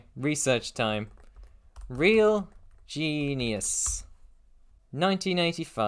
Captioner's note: typing